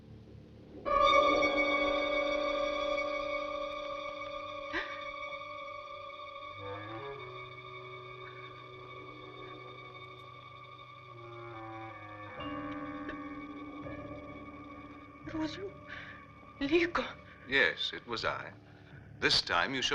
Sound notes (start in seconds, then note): 0.2 suspenseful orchestral music; 4.0 gasping